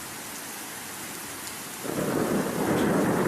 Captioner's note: thunder